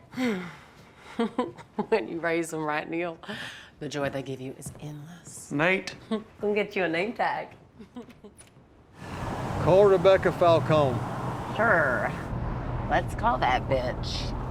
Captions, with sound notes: [SIGHS] [LAUGHS] When you raise them right, Neil, the joy they give you is endless. Nate. I'll get you a name tag. [LAUGHS] Call Rebecca Falcone. Sure, let's call that bitch.